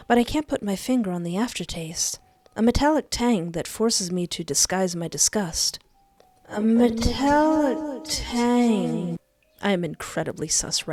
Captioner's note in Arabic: تانغ معدني